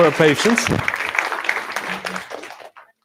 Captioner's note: applause